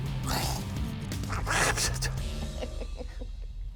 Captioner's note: quacks; laughs